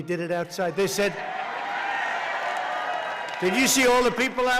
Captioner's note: applause